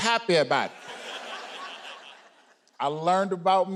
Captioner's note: audience laughing